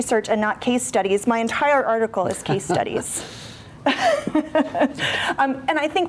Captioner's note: laughs